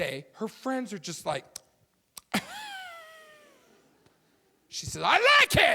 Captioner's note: gasping loudly